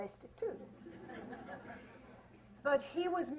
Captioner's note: laughter